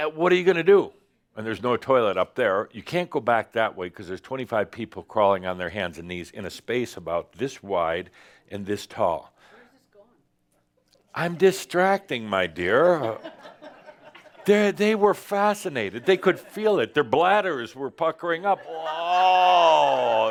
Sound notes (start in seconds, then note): 12.9 some laughter